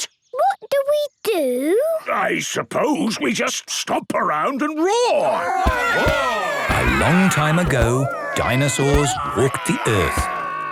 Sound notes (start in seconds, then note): 5.8 all roaring